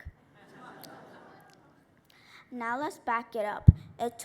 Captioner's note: laughter